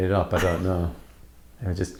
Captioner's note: laughing